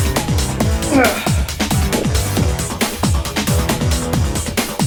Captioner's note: grunts